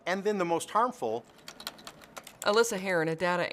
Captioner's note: sounds of keyboard typing